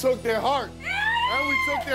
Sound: cheers

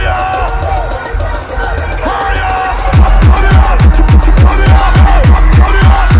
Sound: loud cheers from crowd

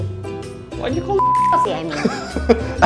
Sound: beeps; all laughing

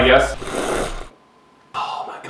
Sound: slurps

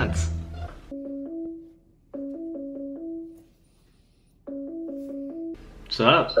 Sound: ringing

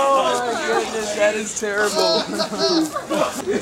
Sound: laughter

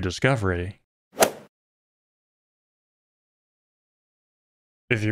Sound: golf ball hit sound

